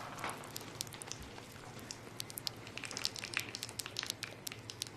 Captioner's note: static, pounding stop; blood dripping